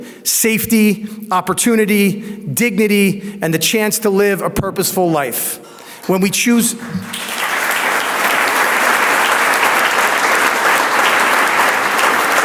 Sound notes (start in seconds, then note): 5.8 audience applauds